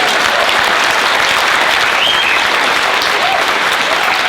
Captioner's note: applauding